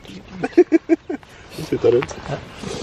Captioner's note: laughs